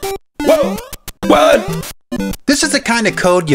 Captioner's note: making weird groaning noises